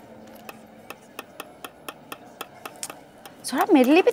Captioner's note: Making sounds with spoons